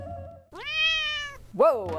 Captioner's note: cat meows